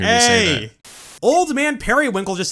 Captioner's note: static